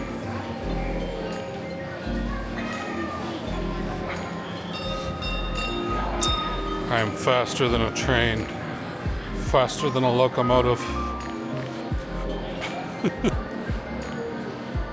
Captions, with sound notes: (bell ringing) I am faster than a train. Faster than a locomotive.